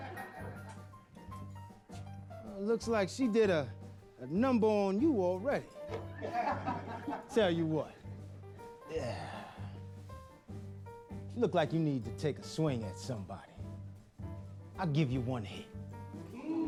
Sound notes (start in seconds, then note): 5.9 men laughing; 8.4 sighs